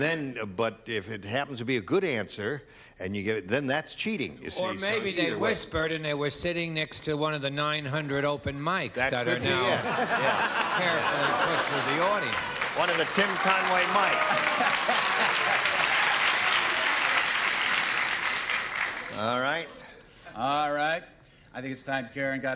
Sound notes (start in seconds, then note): 14.7 applause